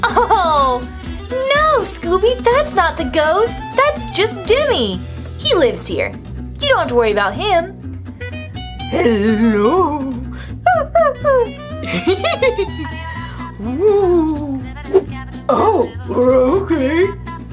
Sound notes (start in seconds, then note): 10.6 Jimmy laughs; 10.8 Scooby whimpers